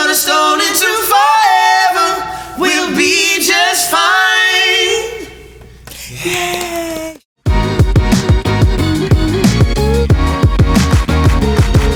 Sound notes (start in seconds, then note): 7.0 clapping; 7.5 soft hip hop music